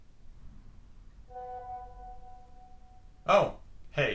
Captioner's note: phone ding alert